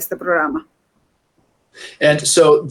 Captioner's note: speaking in Foreign Language